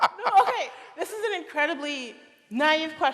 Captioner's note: laughter